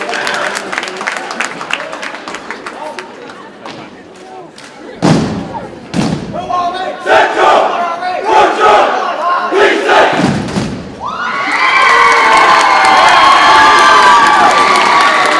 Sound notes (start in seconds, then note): 5.3 cadets yell and stomp rhythmically; 11.0 audience cheers and applauds